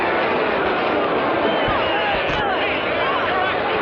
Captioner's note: angry shouting